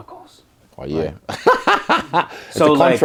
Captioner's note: laugh